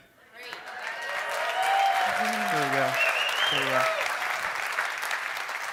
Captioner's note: applause